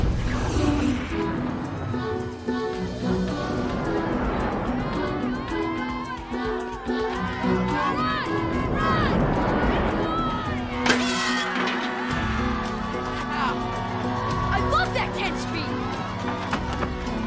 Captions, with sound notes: - Run! Run! Run! - [ Glass Shattering ] [ Cheering ] I loved that 10-speed!